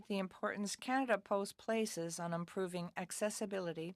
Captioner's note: speaking French